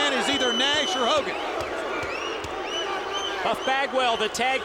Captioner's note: crowd clamoring